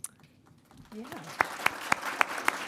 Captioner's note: applause